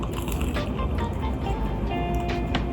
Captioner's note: smol cronch